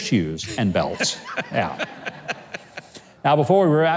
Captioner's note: audience laughs